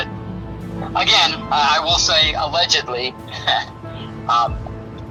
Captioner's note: laughs